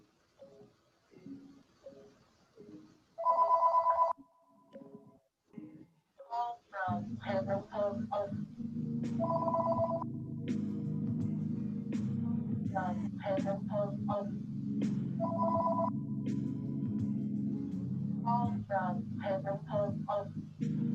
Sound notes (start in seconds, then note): 3.2 phone rings; 9.2 phone rings; 10.6 smooth music plays; 15.2 phone rings; 20.7 smooth music plays